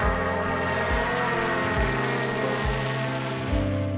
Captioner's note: drone buzzing; gentle music